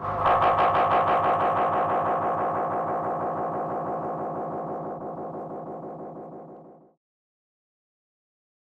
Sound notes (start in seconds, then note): 0.0 radiophonic sounds